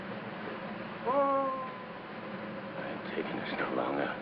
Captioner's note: man screams